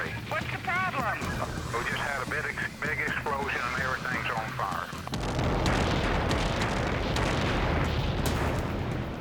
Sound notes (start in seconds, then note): 5.1 explosion booming